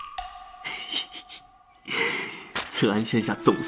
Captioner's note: laughs